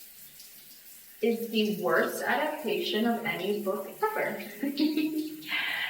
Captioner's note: laughs